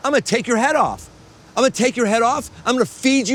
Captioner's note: record scratch